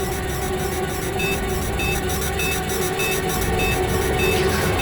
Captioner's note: bomb beeping louder